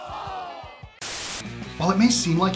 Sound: static hissing

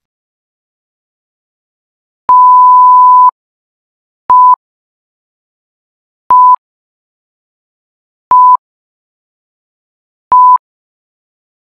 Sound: beeps

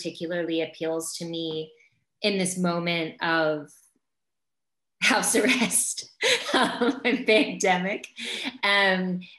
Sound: laughs

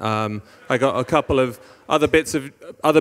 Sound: audience laughing

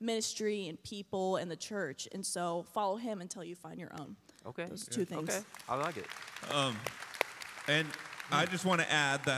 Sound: applause

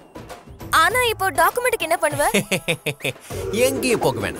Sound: laughs

